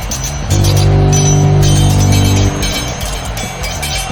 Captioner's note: low humming